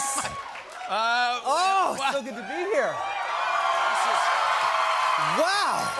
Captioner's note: cheers and applause